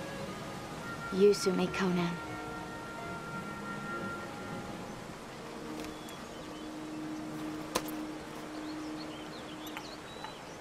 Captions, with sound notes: - You suit me, Conan. (water running) (birds chirping)